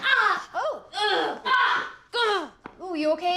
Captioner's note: groaning